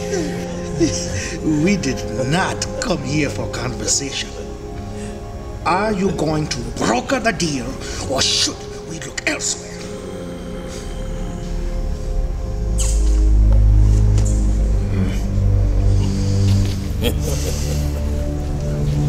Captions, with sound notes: We did NOT come here for conversation. are you going to broker the deal... ...ore should we look elsewhere? [growling] [laughter]